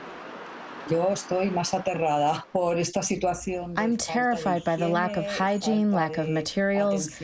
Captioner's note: through translator